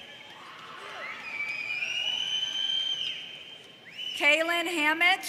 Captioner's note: audience whistles in excitement